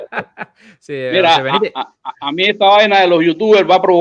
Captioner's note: laughs